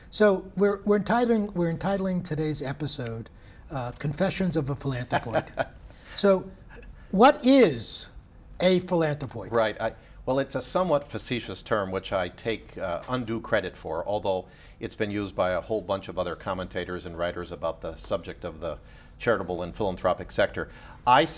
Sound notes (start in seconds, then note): 5.1 laughs